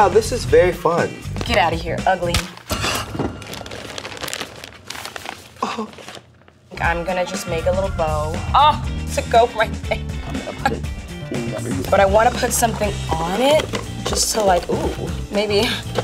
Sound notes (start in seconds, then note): 3.3 gasping